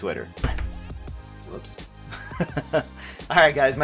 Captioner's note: laughs